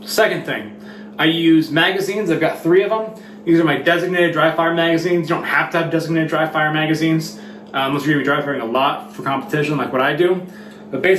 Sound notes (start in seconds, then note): none